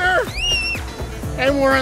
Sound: screaming

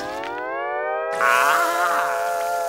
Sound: moaning

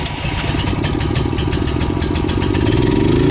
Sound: gasoline engine sputters to life

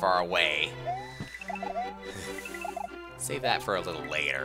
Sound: breathing

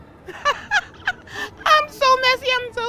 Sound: laughs

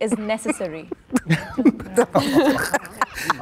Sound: group laughing

